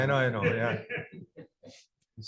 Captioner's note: laughter